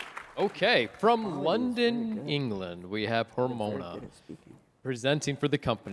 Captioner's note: applause